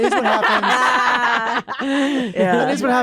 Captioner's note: laughter